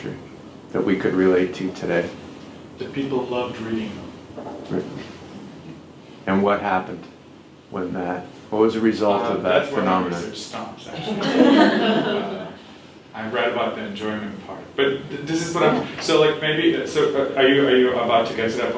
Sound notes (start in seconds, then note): 10.9 laughs